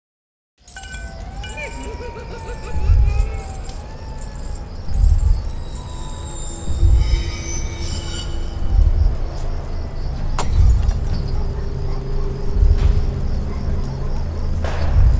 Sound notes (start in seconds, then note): 0.0 sirens ringing; 1.5 person chuckling; 2.7 chain swinging; 2.7 metal scraping; 10.4 metal falling; 10.5 dramatic music